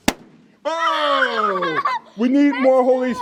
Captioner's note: laughing